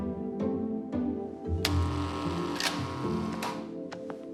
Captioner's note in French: buzzer sounding